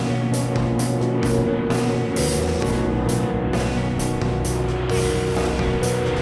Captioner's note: plane approaching